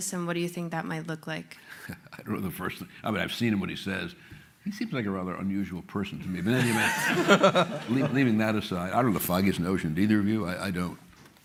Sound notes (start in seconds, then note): 2.1 chuckles; 6.5 laughter